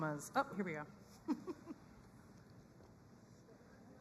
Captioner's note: chuckles